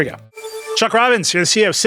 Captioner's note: electronic ringing